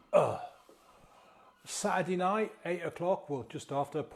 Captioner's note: groans softly